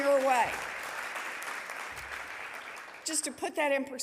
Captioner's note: audience applauding